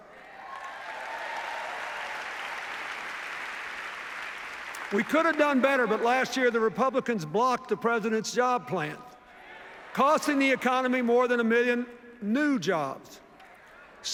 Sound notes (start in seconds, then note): 0.0 cheers, applause